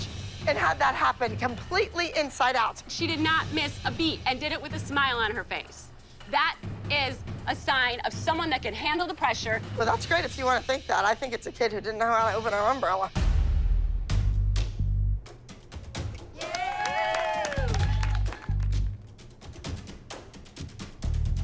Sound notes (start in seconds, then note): 13.1 tense music; 16.4 applause